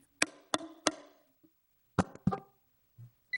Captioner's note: mic thudding